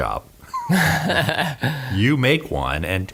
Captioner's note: all laugh